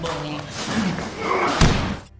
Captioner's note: slam